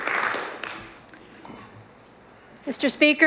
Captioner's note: applause